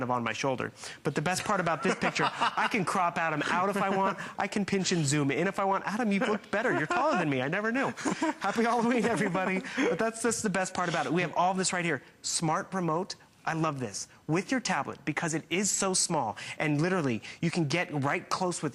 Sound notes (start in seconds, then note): 9.2 laughter